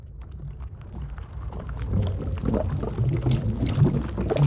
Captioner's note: underwater sounds